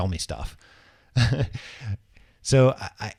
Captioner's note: laughing